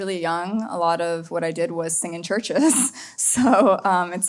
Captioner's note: laughs